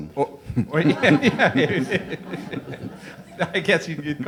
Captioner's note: audience laughs